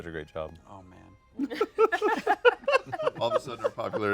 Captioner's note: laughter